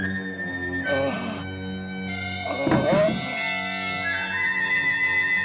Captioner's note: ghoul groaning